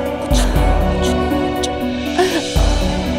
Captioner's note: Asmi sobbing